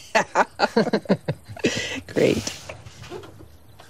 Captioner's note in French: gazouillis d'oiseaux